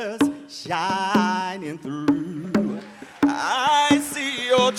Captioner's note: audience applauds